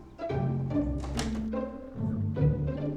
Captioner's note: door opens